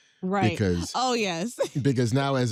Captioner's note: laughs